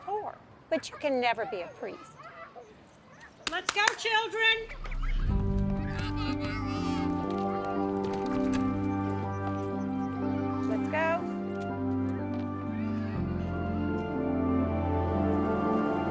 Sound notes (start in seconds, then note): 3.4 Sister Jean clapping; 4.6 soothing music